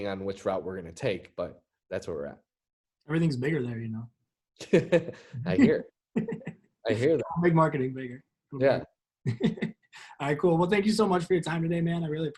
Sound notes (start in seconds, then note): 6.1 laughs